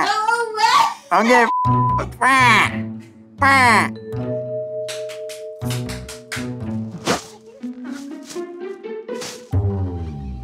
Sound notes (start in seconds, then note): 4.3 beep; 6.3 playful music